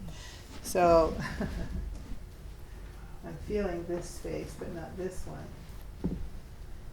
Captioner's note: laughing